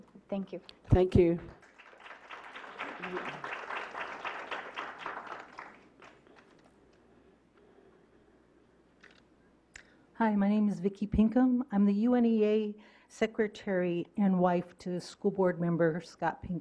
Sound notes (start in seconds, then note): 5.3 clapping